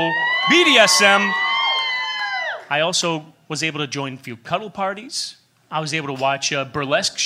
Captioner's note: cheers